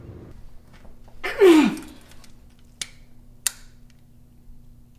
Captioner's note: groaning